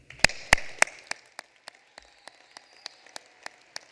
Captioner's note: applause